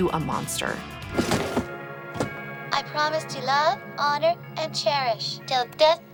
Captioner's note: doll crashes